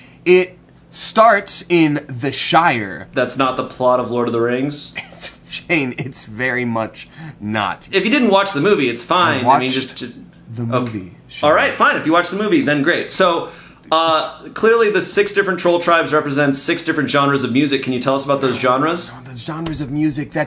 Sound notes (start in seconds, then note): 4.9 laughs